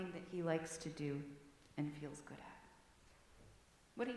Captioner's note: whispered